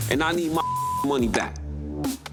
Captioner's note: beep